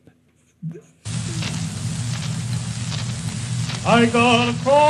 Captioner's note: record scratching